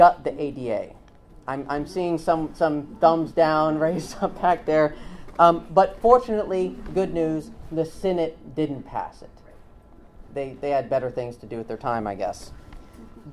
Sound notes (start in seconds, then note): 3.5 laughs